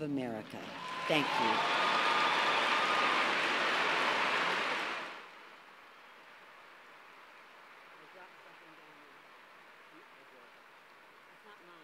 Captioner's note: cheers and applause